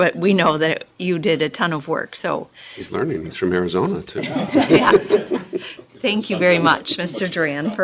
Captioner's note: laughter